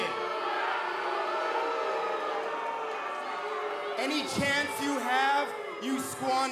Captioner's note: cheers & boos